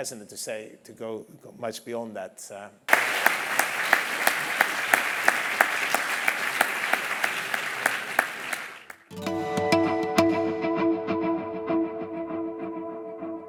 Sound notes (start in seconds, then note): 2.9 applause